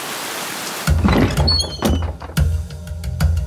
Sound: door opening

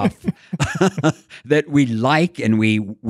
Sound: laughing

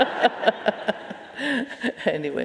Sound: audience laughing

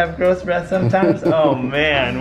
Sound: laughing

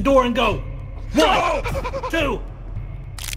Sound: fast breathing while sounding scared

